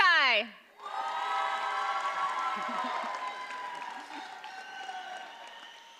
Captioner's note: audience cheers and applauds